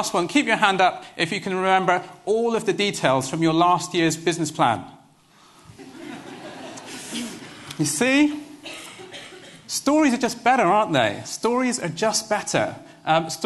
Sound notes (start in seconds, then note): 5.7 laughter